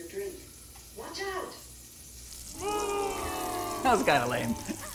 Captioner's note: crowd boos